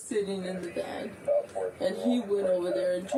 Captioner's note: radio chatter